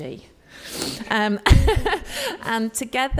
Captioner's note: sniffs and laughs